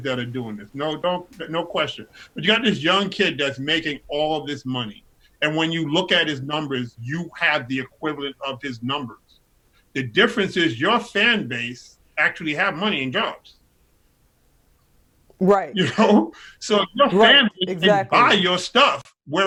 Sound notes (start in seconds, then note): 15.7 laughs